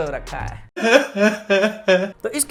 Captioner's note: cry